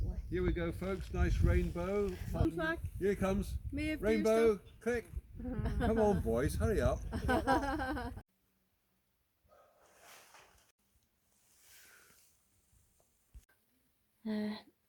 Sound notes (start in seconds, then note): 7.1 laughter